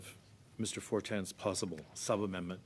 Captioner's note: speaking French